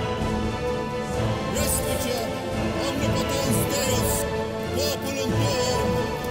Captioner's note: blessing in foreign language